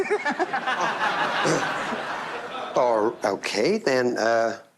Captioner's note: laughter; clears throat